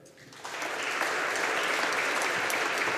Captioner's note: audience applauding